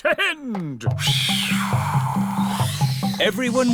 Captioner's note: blows air